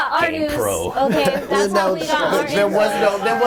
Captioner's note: overlapping chatter